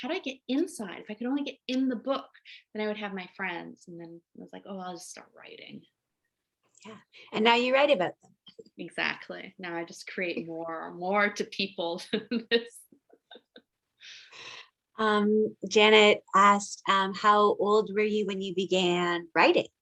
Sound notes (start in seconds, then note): 12.1 laughs